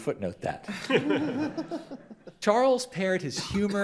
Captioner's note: crowd laughs